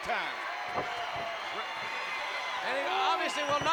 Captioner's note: applause